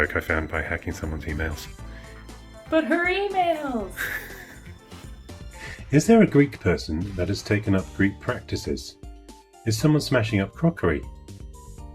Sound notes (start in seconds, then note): 3.5 laughing